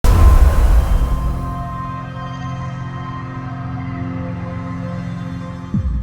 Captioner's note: sound effect